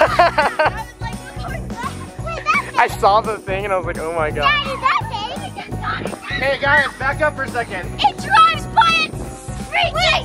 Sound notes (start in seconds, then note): 0.0 laughing; 4.4 kids screaming